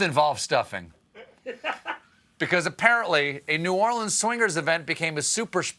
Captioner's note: laughter